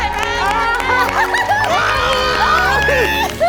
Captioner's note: audience cheering; laughs